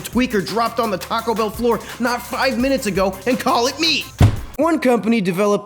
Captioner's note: slams head into table